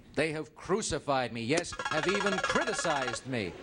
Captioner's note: buzzer beeps